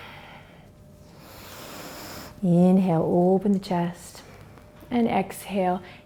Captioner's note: inhales